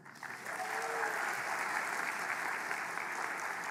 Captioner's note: applause; cheering